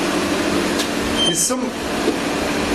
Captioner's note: device beeping